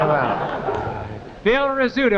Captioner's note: audience laughing